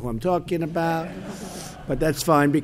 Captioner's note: laughter